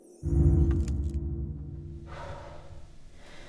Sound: shimmering; sigh

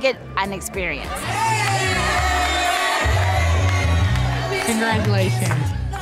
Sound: cheering

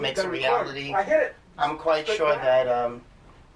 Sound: background voices talking

